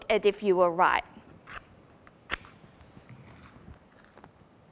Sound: sound of striking match

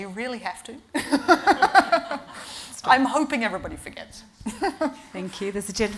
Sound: laughing

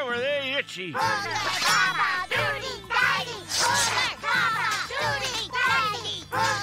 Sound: babies chanting

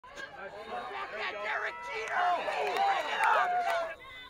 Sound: crowd cheering

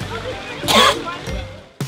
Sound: Ethan Klein Cough ™

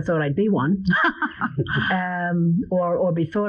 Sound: laughing

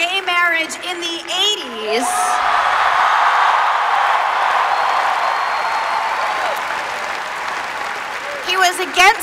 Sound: applause

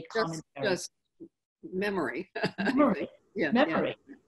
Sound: laughing

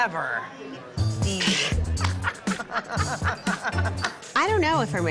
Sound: both laughing

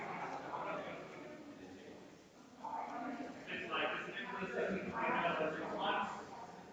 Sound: people chattering distantly continues

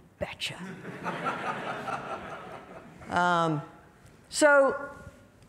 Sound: audience laughing

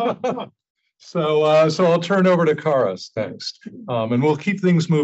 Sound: laugh

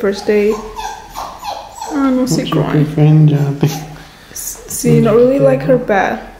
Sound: crying

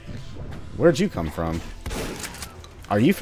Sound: boom

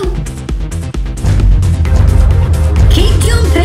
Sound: huge BOOMS!

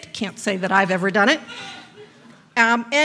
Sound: audience laughs

